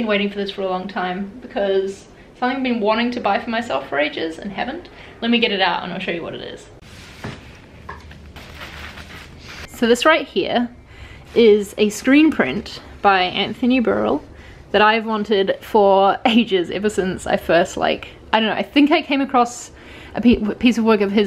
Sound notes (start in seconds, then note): 8.0 removing packaging